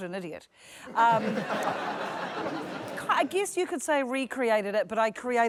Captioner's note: laughter